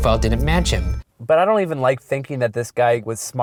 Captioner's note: voiceover